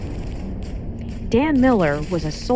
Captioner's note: gunshots firing